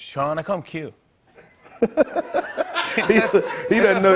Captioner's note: laughter